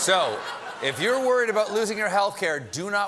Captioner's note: laughter